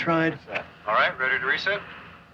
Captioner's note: man On Radio